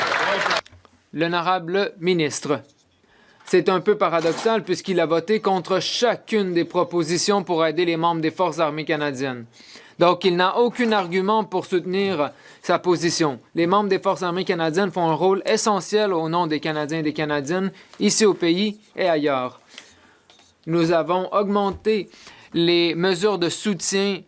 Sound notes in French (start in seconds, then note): 6.1 voix de l'interprète